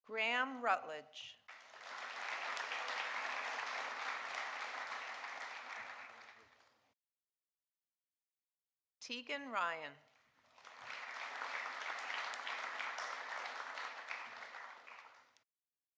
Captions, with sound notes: Graham Rutledge. (audience applauding) Teagan Ryan. (audience applauding)